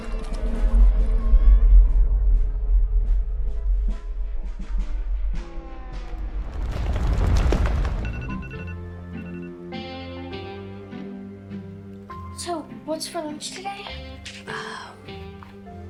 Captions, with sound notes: (eerie music) (alarm blaring) (gentle music) - So what's for lunch today? - Oh, hot dogs.